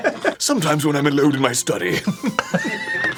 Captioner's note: doing an aristocratic british accent; wheeze laughs